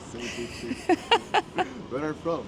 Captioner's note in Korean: 웃음